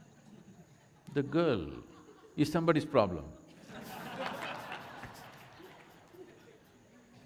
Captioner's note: crowd laughs with Sadhguru